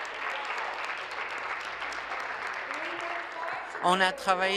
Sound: applause

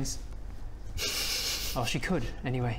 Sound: guilty snickering

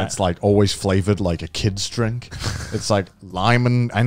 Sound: laughing

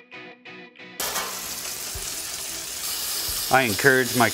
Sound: sound of water spraying

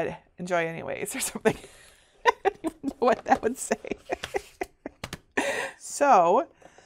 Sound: laughs

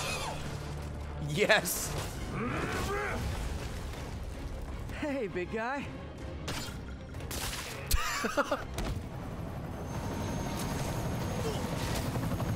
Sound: laughs

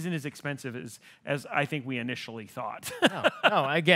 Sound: laughing

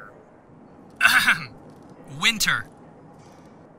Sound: clears his throat

